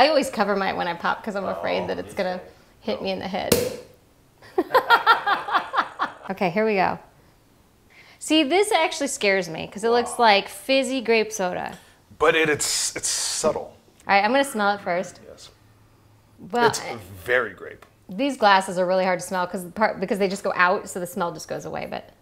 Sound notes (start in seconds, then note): 3.4 pop; 4.5 laughing